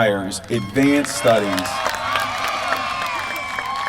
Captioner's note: applause